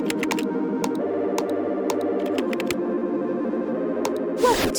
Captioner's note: keyboard clacking